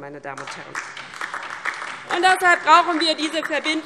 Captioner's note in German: Beifall DIE LINKE und vereinzelt SPD